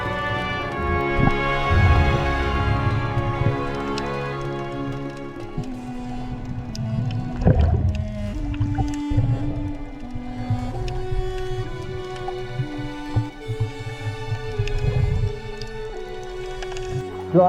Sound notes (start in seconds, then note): 0.2 water bubbling